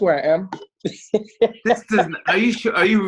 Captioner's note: laughs